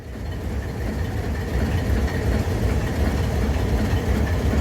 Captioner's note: classic Alco rumbling